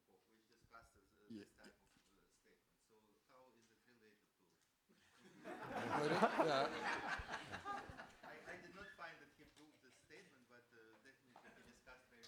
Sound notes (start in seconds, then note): 5.4 laughing